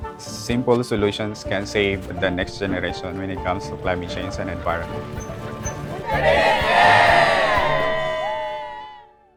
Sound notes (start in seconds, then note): 5.6 people cheering; 6.1 bright music